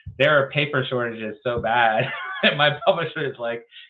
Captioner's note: laughs